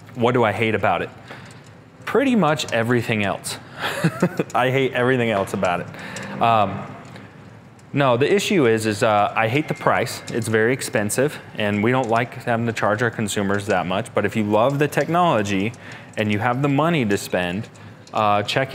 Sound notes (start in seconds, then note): 3.7 chuckling